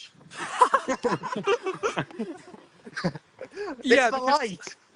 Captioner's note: laughter